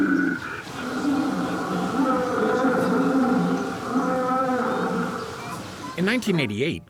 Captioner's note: roars